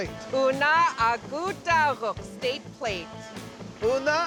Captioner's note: speaking yupik